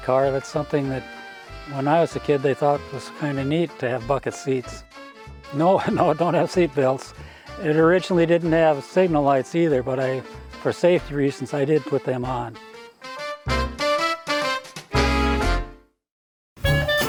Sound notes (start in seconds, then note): 5.7 chuckles; 13.8 upbeat music continues